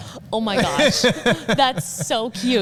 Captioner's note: laughing